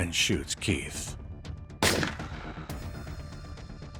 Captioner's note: gun fires